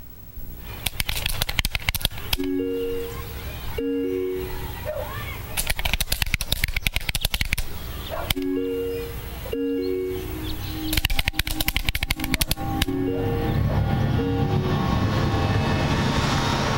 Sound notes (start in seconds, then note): 2.2 computer keys clicking; 9.5 ominous music